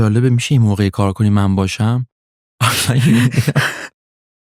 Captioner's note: laughs